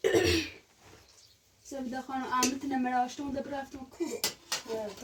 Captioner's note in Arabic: تنحنُح